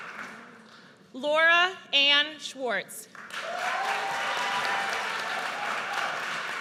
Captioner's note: audience cheers